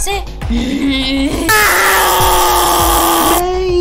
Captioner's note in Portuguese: Poppy screams in pain